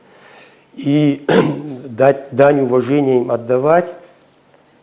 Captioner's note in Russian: откашливается